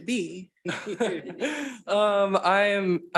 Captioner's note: and participants laughing